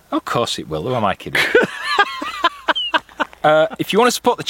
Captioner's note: laughs